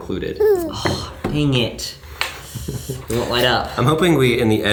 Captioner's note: child crying